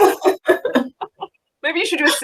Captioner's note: laughing